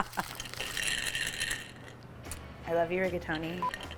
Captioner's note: rigatoni rattling; laughs